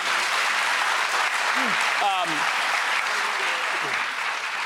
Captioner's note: audience claps loudly